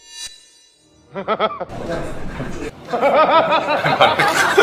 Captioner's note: they just laugh